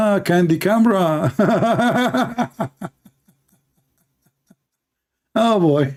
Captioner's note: Ketawa